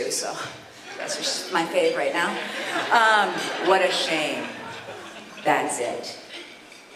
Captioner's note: haha